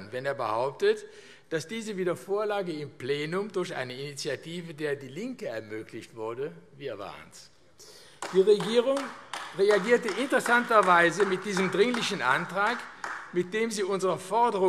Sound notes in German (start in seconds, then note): 8.1 Vereinzelter Beifall AfD